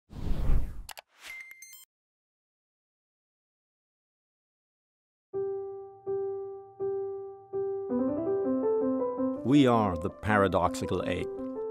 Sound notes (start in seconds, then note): 0.1 whooshing; 0.9 clicking; 1.8 beeping; 5.3 upbeat piano music